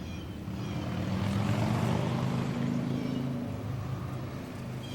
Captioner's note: neraby Traffic